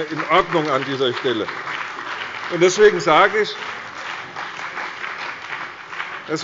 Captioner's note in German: Beifall bei der CDU und dem BÜNDNIS 90/DIE GRÜNEN